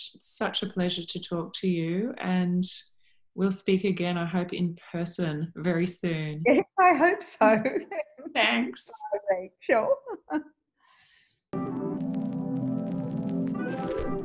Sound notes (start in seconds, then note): 7.4 laughs; 11.6 gentle music